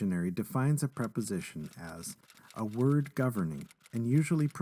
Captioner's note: sound of typing